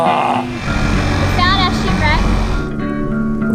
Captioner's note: boat motor